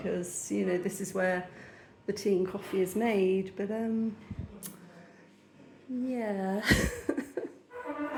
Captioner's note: laughing; loud squeaking sound